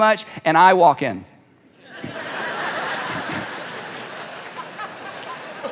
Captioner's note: congregation laughing